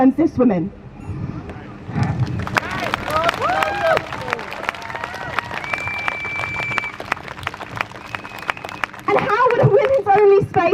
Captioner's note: crowd cheers